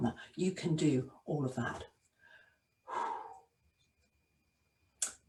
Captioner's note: exhales